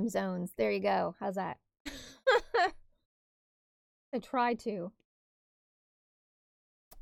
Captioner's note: laugh